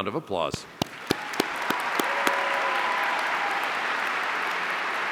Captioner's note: audience cheering